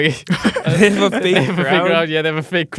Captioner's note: laughs